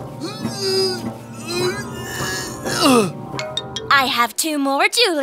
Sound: grunting

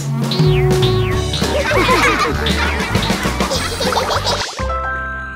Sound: laughing

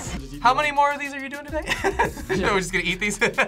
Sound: laughs

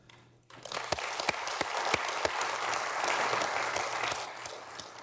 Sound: audience applauding

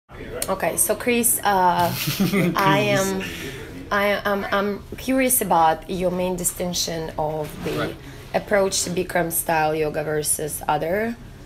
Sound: laughs

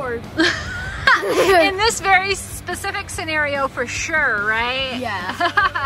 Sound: laughs

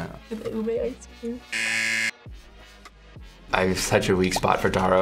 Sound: buzzer rings

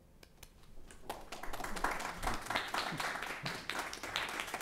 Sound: applauding

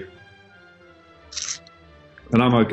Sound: sucks teeth

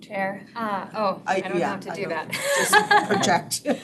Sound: laughs

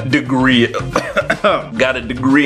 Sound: coughs

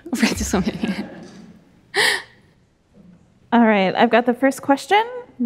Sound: audience laughs

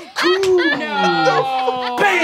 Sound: laughing

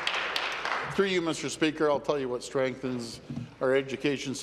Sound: applause

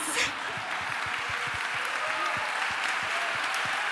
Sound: applause

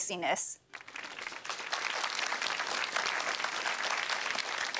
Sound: applause

